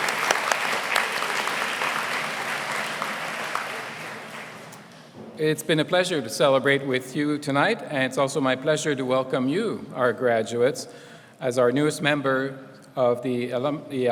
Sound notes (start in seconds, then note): 5.6 applause